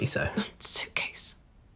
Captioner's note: whispers sternly